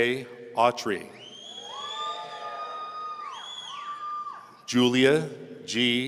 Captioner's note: audience cheering